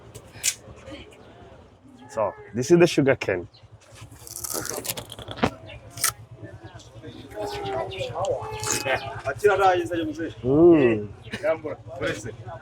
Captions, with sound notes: So, this is the sugarcane. [crunch] Mmm.